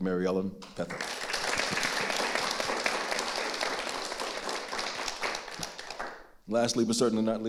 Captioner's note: audience applauding